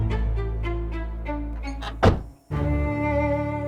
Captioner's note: door slams